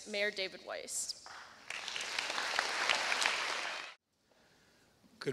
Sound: applause

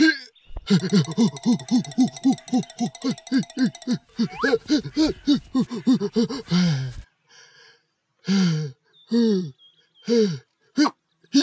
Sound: panting

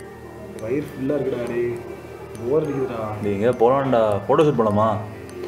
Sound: none

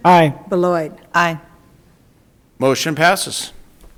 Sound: none

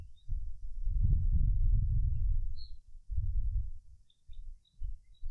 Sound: wind Blowing

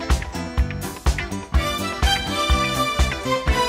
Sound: disco music; clap

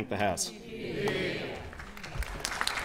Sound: applause

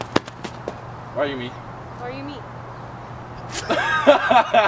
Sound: laughing

